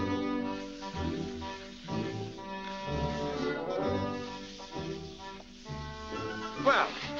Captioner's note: wet scrubbing sounds